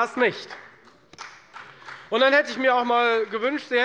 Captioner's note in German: Beifall bei Abgeordneten der FDP und der SPD